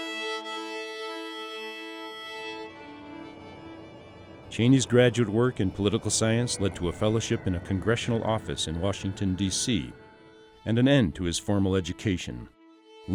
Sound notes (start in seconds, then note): 0.0 mid tempo violin music; 4.4 voiceover